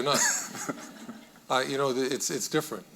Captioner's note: audience laughing